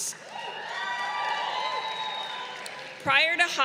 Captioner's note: crowd cheering